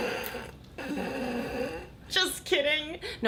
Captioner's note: snorts